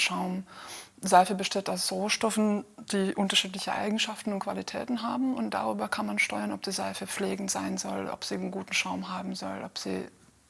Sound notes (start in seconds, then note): none